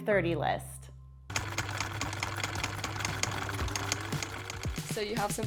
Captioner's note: machines clicking